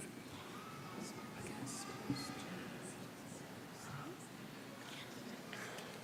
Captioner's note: chatter